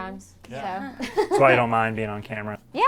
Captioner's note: all muttering agreement